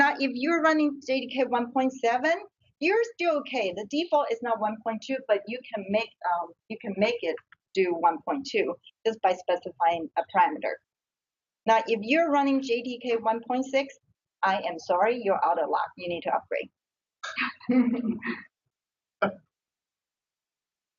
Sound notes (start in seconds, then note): 17.3 chuckles